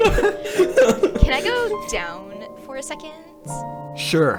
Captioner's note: laughing